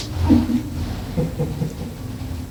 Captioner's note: laughs